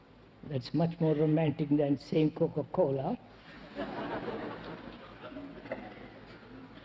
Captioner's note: laughter